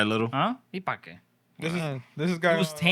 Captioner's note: speaking Spanish